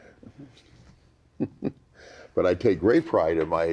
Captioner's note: chuckles